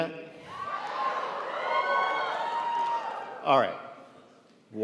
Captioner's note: crowd cheers